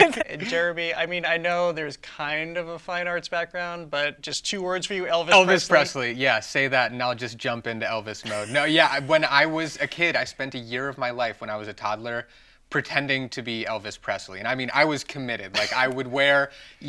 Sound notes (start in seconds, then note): 8.2 chuckles; 15.5 laughs